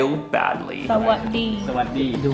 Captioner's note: speaking foreign language